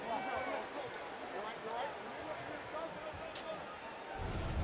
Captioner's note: onfield chatter